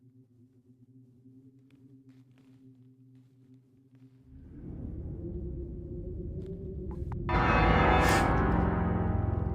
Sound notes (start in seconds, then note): 5.2 wind picking up